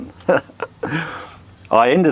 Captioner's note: chuckling